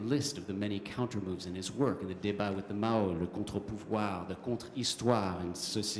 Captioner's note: speaking french